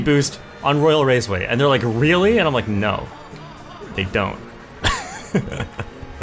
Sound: laughs

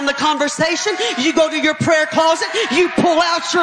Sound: audience cheering

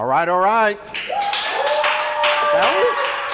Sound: competitors cheering

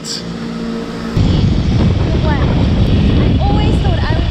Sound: wind roaring

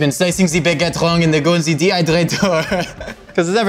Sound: laughing

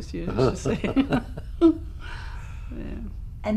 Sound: laughter

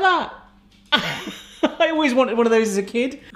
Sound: laughs

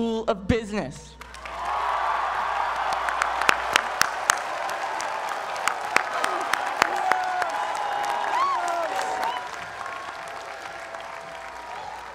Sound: applause

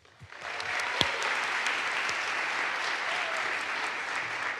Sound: audience applauds

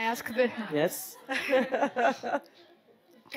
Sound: laughs

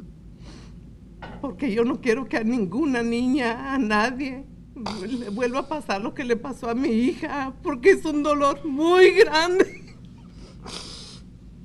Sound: speaking spanish

